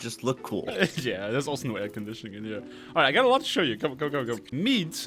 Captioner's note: chuckles